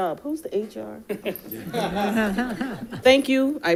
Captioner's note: audience laughing